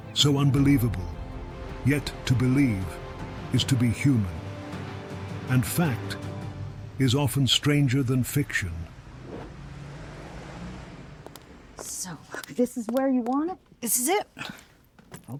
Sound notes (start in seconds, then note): 9.4 air whooshing; 11.2 footsteps plodding